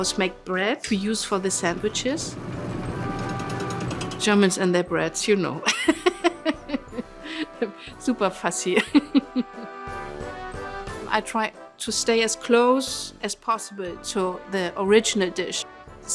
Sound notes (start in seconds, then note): 5.7 laughs